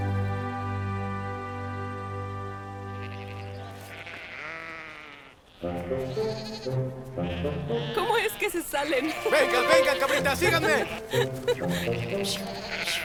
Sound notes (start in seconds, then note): 7.1 goats bleating; 10.9 playful orchestral music